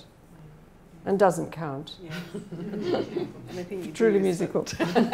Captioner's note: laughing